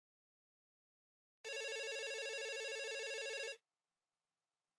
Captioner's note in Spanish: tono de llamada